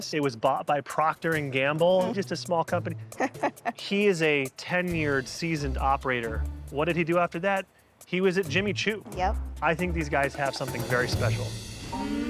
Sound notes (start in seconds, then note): 3.1 laughs; 12.0 bright music